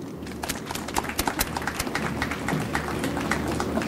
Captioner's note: audience applauds